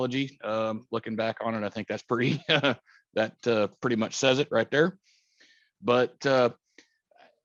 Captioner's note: chuckles